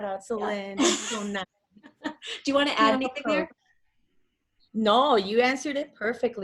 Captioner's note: laugh